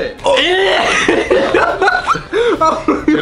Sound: gagging; laughing

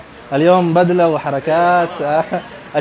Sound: talking in Arabic

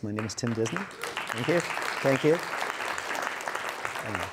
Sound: audience applauds

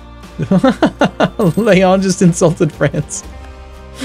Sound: laughter

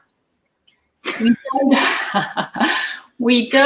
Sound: laughter

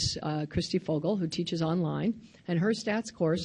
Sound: none

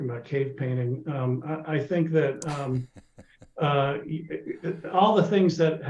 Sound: laughing

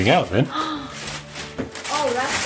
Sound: gasps

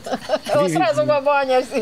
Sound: laughing

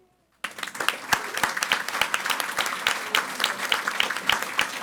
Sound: audience applauding

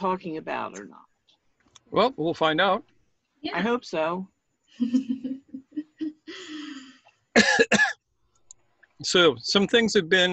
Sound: laughs

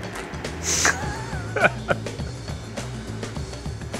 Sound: laughing

